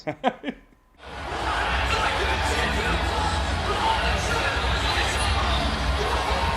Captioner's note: laugh; crowd cheering; upbeat rock music